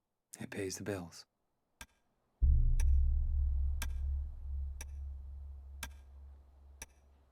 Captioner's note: clock ticking; suspenseful music